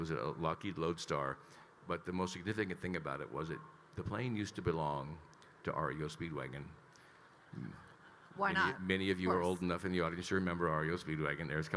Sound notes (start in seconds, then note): 7.4 attendees laughing